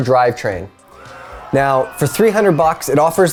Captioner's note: canned cheering